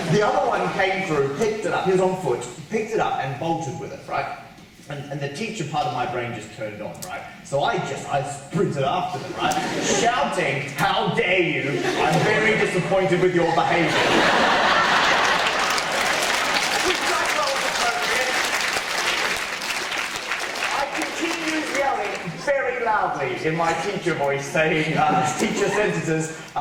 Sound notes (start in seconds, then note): 11.7 audience laughter and applause